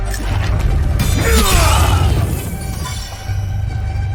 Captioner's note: Remi grunts